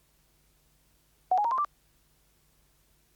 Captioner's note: pitch increases